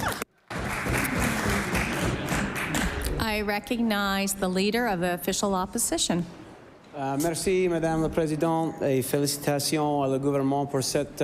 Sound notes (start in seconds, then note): 0.4 applause